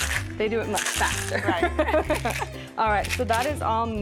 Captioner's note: laughs